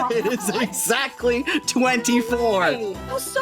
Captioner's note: laughing; laughing